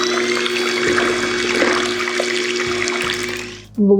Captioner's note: whirring